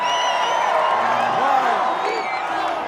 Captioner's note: cheering; chanting